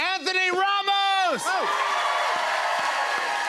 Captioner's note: cheers and applause